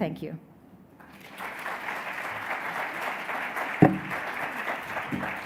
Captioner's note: audience applauds